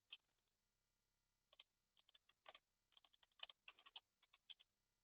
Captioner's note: computer keyboard keys tapping